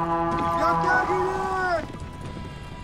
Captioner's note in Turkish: Borazan sesi; Biri bağırıyor